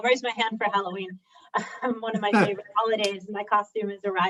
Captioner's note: laugh